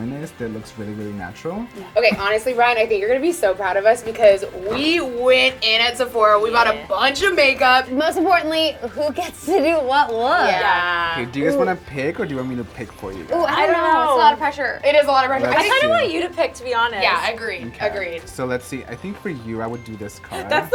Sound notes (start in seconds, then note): 8.9 laughing